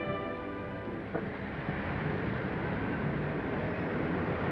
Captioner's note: engines rumbling